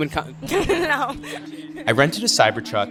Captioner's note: laughs